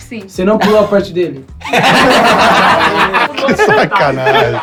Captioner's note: risos